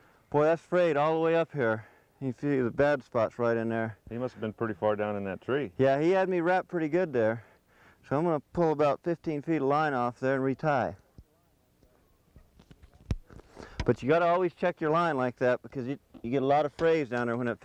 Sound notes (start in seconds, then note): none